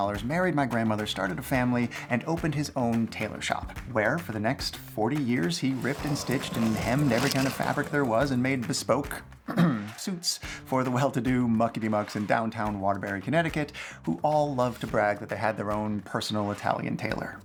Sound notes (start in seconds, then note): 9.4 ahem